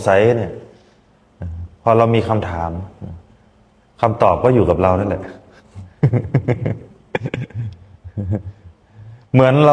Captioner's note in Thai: เสียงหัวเราะ